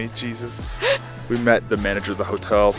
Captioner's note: laughing happily